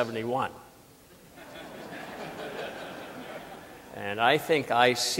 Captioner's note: audience laughing